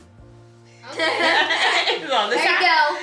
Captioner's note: everyone laughs